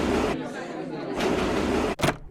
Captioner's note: chatter